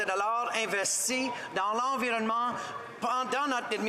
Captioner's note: speaking French